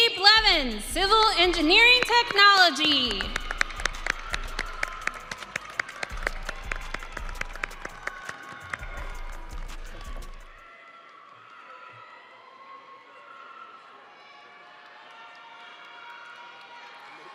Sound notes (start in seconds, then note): 7.8 audience cheering and applauding